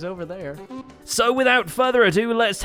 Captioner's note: horn Sounds